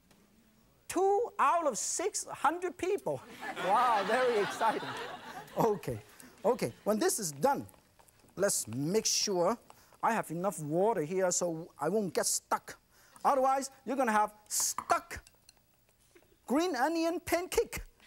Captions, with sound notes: Two out of six hundred people. (audience laughs) Wow, very exciting. Okay, okay, when this is done, let's make sure I have enough water here. So I won't get stuck. Otherwise you're gonna have stuck green onion pancake.